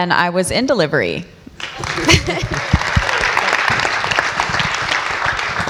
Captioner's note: audience applauds